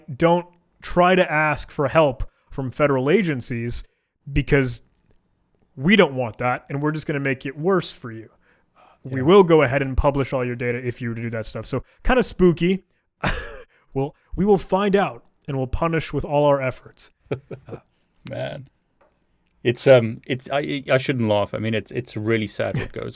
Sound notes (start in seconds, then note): 13.2 chuckling; 17.2 laughing